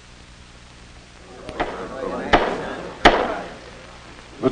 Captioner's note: gavel bangs